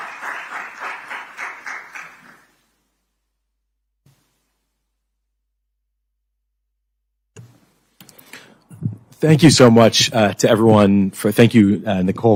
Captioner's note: applause